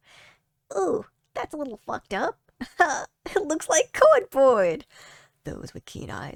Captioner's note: small voice